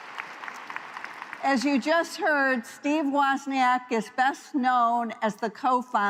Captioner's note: applause